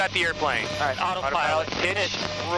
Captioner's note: voice over radio; radio